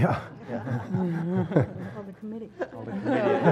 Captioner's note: laugh